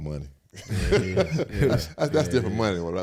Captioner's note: all laugh